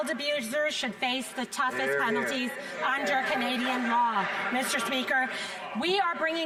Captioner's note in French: voix de l'interprète